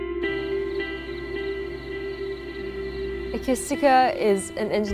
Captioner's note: crickets chirping